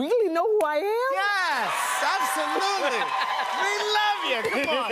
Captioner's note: cheers and applause